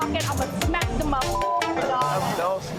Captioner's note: beep